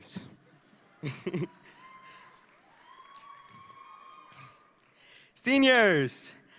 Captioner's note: audience laughing and cheering